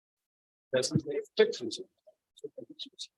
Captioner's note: faintly speaking